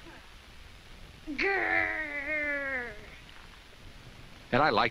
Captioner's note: Jessica growls